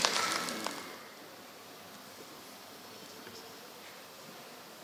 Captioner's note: applause